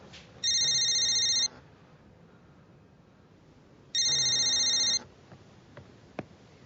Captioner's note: cellphone rings and vibrates